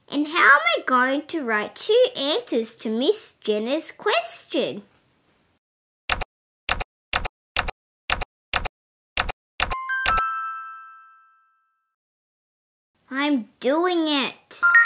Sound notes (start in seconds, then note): 6.1 typing; 9.7 ding!